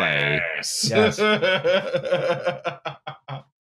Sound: laughs

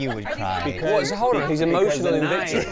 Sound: all chattering

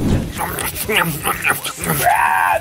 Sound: contented eating noises

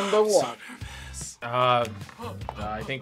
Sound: whispers

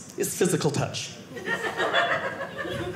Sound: audience laughing

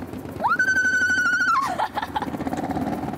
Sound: eeeeeeek

